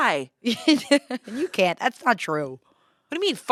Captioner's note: laughs